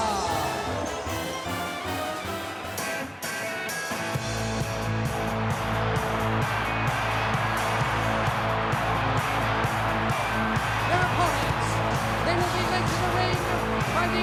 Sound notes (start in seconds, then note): 3.1 upbeat music; 5.1 audience cheers